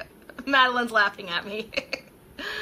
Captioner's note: laughing